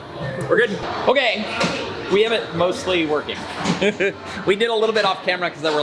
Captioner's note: chuckles